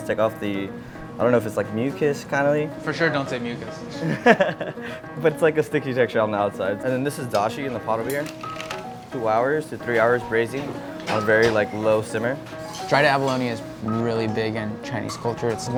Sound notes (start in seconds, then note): 4.0 laughs